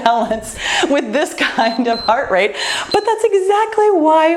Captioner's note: timer beeps